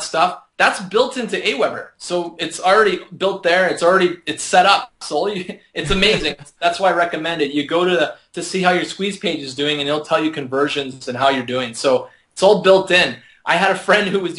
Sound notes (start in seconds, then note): 5.8 laughing